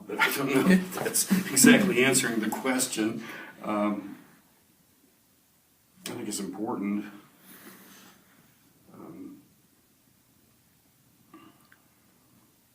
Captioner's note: laughs